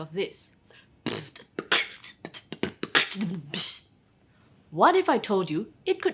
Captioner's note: mimics sound of drum set